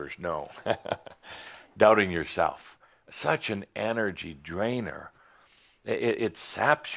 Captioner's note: Adamus chuckles